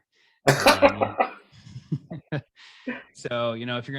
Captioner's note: laughing